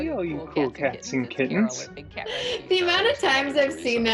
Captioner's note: chuckles